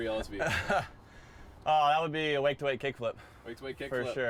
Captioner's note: laugh